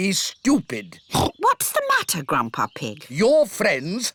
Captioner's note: oinks